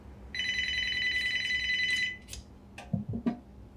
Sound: phone ringing

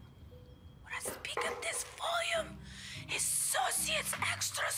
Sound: hisses

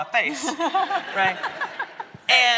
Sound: audience laughing

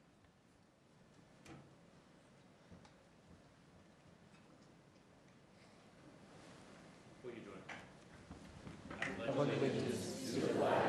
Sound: moment of silence

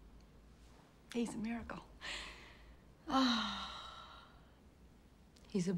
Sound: sighs

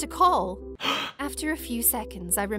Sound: gasp

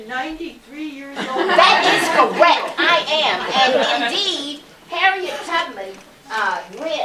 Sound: laughter

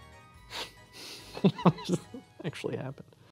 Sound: chuckles

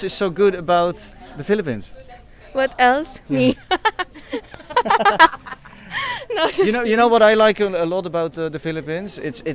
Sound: she's laughing

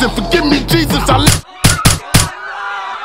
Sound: women screaming; gunshots

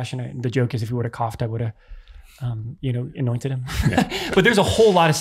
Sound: laughs

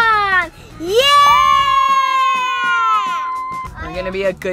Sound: cheering

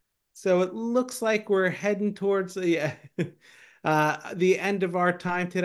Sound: laughing

